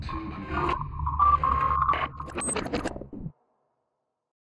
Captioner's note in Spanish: Voces distorsionadas